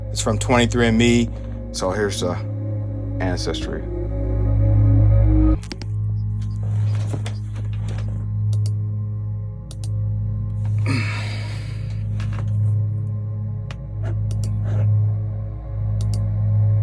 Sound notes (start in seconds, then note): 4.2 ominous music; 5.9 computer keyboard clacking; 13.9 ominous music